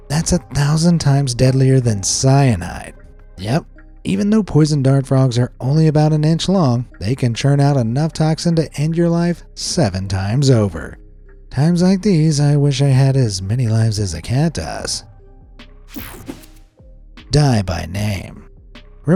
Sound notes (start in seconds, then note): 15.7 mellow music; 15.9 graphic whooshes